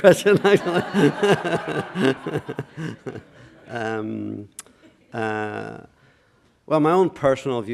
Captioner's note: laughter